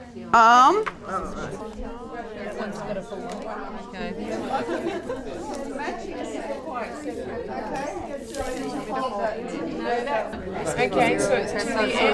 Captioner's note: audience chatter